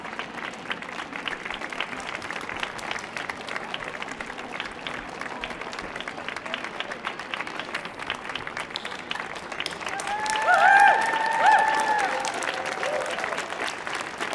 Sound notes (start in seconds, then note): 0.1 audience applauding; 9.8 audience cheering